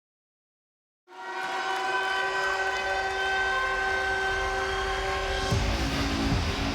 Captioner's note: crowd cheering; raucous music